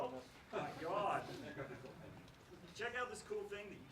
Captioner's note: laughs